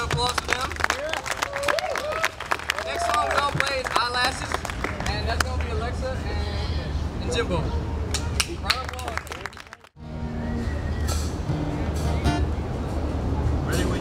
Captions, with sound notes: another round of applause for them. Next on we're gonna play as Eyelashes, and that's gonna be Alexis and Jimbo. Crowd applaud. (audience applauds)